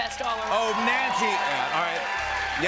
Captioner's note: audience cheers